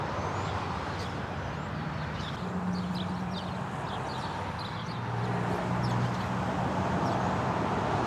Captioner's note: traffic rumbles, birds chirping